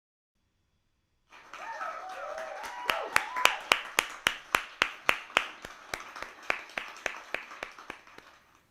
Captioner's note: applause and cheers